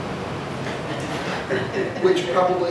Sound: audience laughing

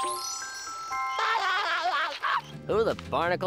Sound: laughing

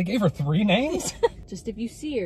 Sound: laughing

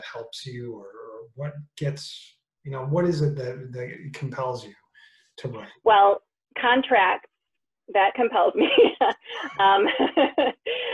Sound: laugh

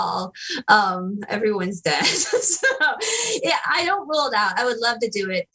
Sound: laughter

